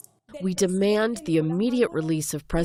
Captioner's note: voice-over; through translator